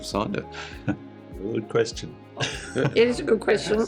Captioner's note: chuckles